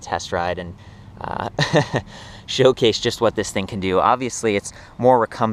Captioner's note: laughs